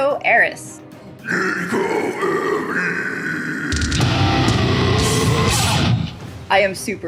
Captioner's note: screaming